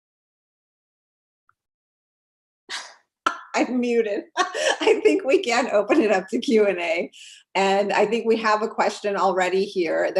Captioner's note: laugh